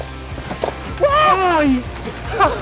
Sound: screams

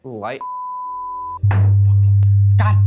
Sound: video game screen beeping

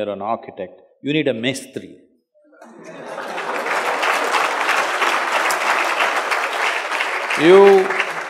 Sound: laughter/Applause

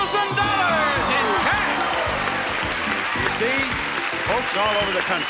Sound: applause

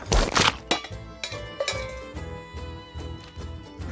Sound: can clatters

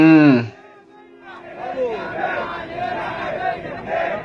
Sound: people shouting outside the palace

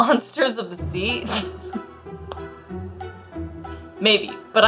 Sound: laughs

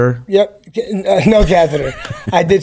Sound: laughs

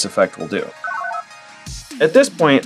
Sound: analog beeps

